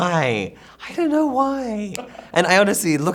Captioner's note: interviewer laughs